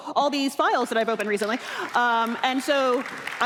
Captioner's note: applause